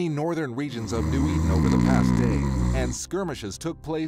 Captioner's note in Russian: храпение